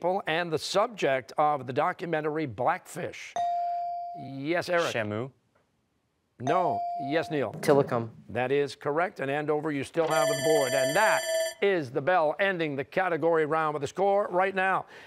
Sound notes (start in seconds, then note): 10.0 bell rings